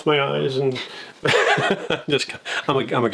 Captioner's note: laughing